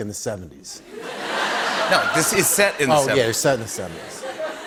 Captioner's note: laughter